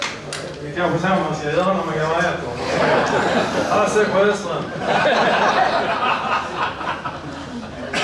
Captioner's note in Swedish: Skratt